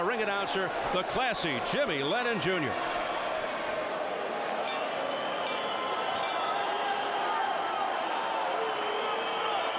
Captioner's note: bell rings